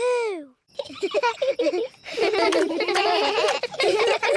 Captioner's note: whispering; both giggle; all giggling